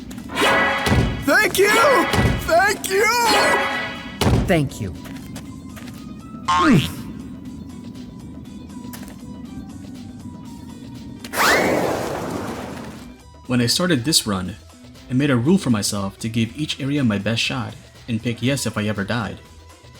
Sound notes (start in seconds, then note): 6.5 boink!; 11.2 slide whistle